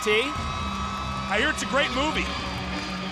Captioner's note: crowd cheering